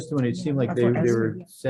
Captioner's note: people murmuring